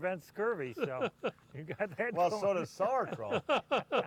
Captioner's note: laughter